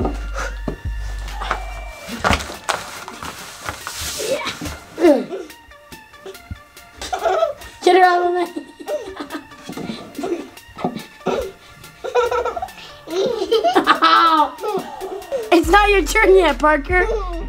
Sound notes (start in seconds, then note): 7.1 giggles; 12.3 laughs